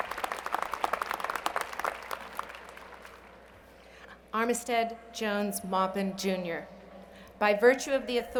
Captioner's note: applause